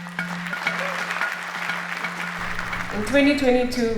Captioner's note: people clapping hands